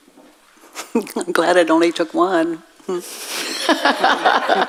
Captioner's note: audience laughs